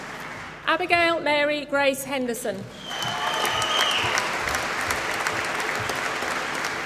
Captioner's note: applause